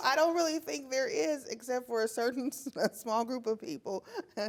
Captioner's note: laughs